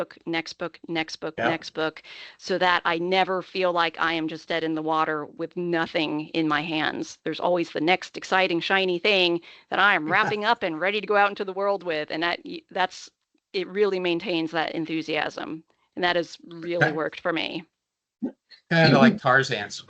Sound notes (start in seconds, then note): 10.1 chucking